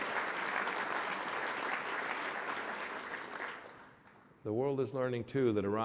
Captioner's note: applause